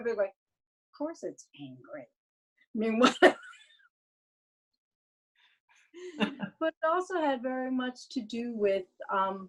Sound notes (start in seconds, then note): 6.1 laughs